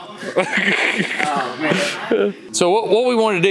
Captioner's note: Destin laughs